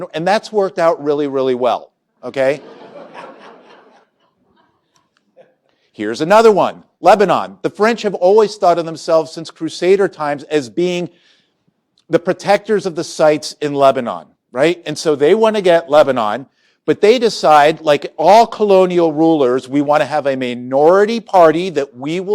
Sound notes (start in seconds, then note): 2.5 laughter